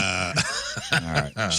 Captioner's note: laughs